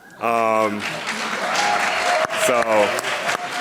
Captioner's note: audience applauding